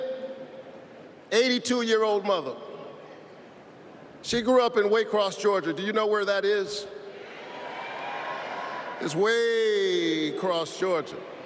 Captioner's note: applause